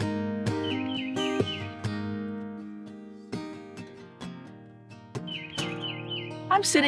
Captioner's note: birds chirping